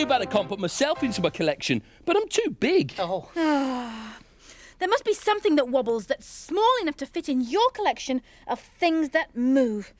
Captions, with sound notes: Too bad I can't put myself into my collection. But I'm too big. (Sighs) There must be something that wobbles that's small enough to fit in your collection of things that move.